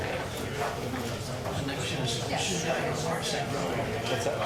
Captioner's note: people chatting